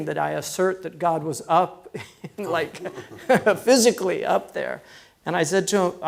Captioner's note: laughs